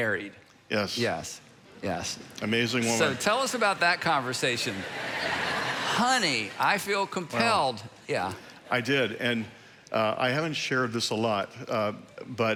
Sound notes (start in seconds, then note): 4.8 congregation laughing